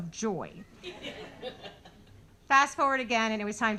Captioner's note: audience laughing